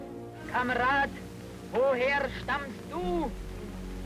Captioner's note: speaking German